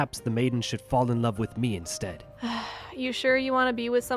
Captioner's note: sigh